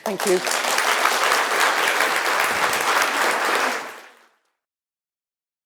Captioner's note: audience applauding